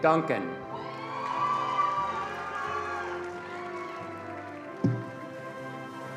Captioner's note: attendees cheering and applauding